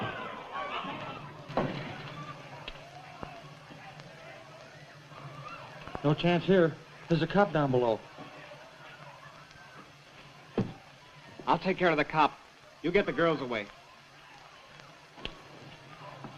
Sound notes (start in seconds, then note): 0.0 commotion; 1.4 footsteps; 10.1 footsteps